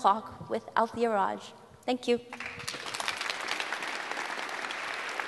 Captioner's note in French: Applaudissements